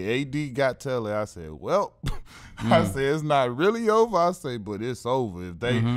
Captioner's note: laughs